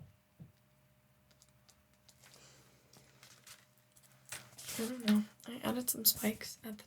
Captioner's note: silence